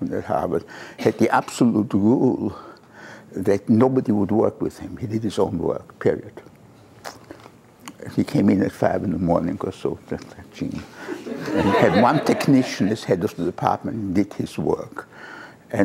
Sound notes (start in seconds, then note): 11.1 laughter